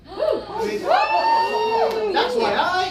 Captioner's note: audience gasps and cheers